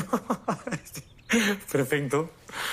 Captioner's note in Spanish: Risas